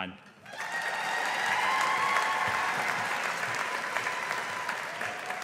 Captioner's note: audience applauding